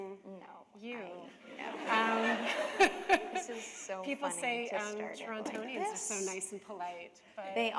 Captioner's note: laughter